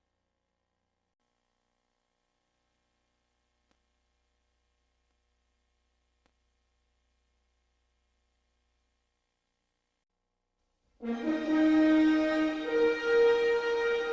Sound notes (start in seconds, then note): 1.3 VHS static; 11.0 bombastic fanfare playing